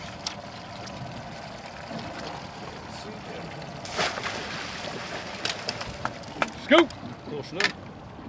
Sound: reel cranking; fish splashing

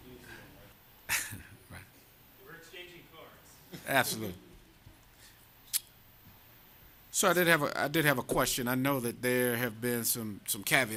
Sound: laughter

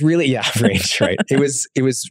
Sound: laughing happily

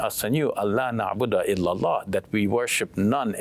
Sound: speaks in Arabic

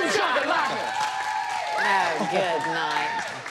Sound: whooping

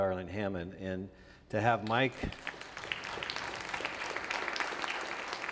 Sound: audience applauds

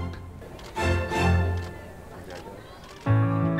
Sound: camera shutters

